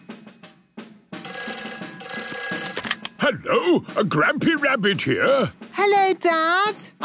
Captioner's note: phone ringing